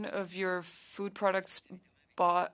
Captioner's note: speaking French